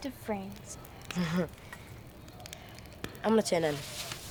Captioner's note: Sky laughing